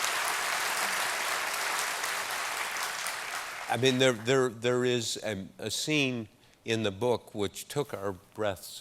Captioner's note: applause